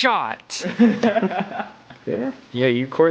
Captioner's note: laughing